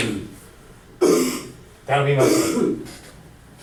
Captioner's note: coughing